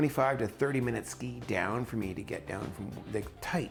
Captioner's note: voiceover